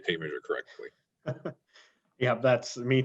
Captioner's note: chuckles